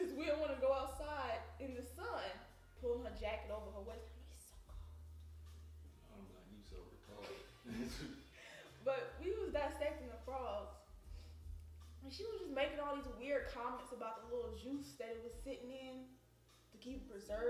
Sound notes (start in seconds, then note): 4.2 whispering; 7.2 laughing